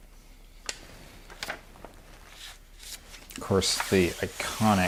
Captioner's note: page crinkling